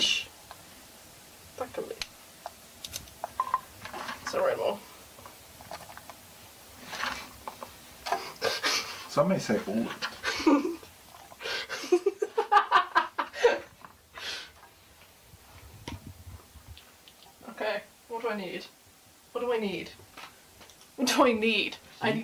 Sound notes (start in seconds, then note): 4.9 chomping; 8.1 laughter; 11.5 laughter